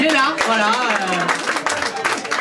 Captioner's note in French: applaus